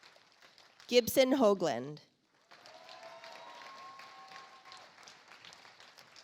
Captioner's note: audience applauds